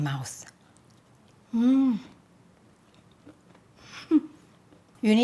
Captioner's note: laughs